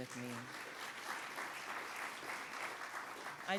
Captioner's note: audience applauds